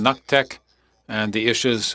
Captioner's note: speaking French